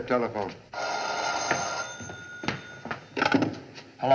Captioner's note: phone Rings; rings